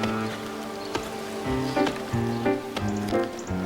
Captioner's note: bouncing of ball